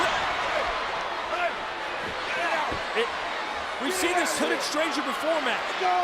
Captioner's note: applause